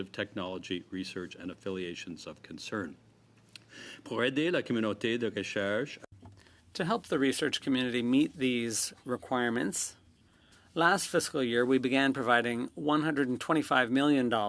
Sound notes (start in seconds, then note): 11.2 speaking French